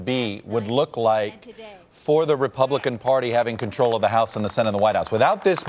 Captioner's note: applause